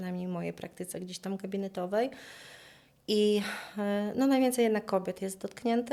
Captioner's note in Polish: westchnienie